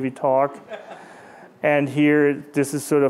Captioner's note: laughter